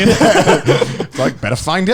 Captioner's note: laughing